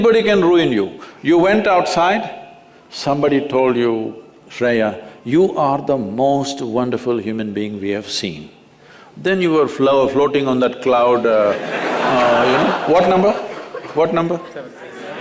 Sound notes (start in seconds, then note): 11.4 laughter